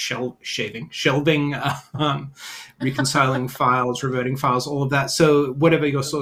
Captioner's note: chuckles